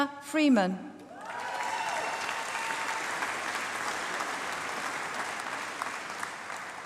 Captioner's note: applause